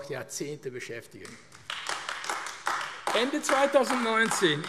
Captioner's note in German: Beifall AfD